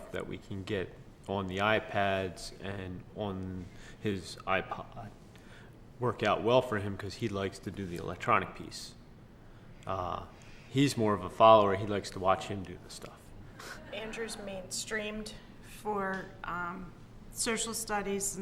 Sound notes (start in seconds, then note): 13.6 laughs